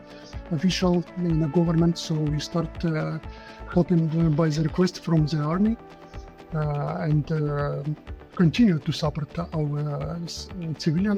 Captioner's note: Ukrainian